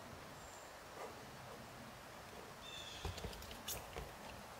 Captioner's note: birds chirping